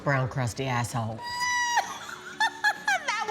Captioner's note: laughter